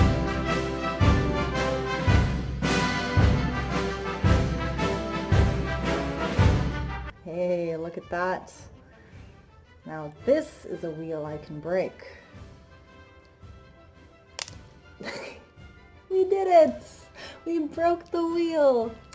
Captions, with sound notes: Hey, look at that! Now this is a wheel I can break. [Crack!] [Soft laugh] We did it! We broke the wheel!